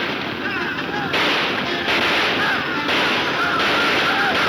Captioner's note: gunshots banging